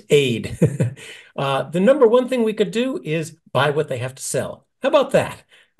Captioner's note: laugh